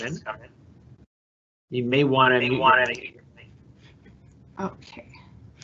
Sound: mic feeding back

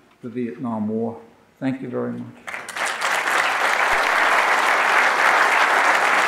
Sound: audience applauding

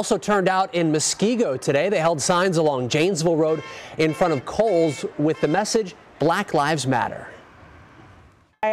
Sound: car horns honking

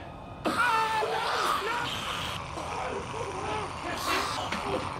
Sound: raspy moaning

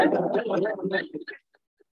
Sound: laughter

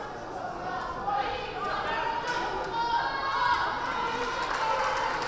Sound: team members calling out

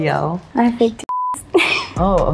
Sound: beep

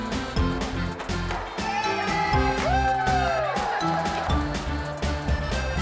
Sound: cheering

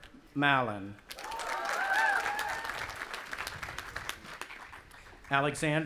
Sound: audience applauding and cheering

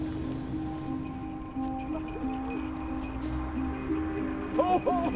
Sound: bells jingling

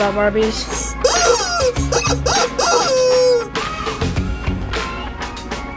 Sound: toy rooster crowing

